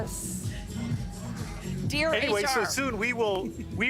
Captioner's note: laughter